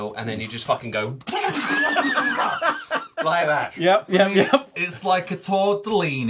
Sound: laughter

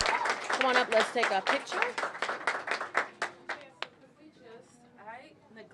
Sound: applause

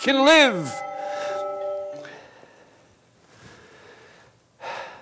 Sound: alarm stops

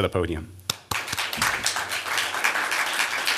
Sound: applause

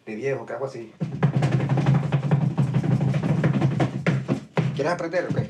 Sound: flamenco stomping

